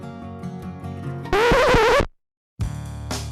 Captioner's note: record squeaks; upbeat music